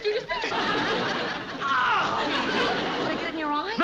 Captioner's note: yells